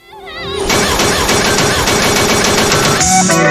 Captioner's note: yelling; yelling to the tune of the glass bottles